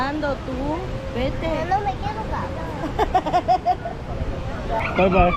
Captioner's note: laughing